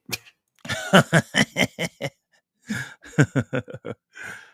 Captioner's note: laughter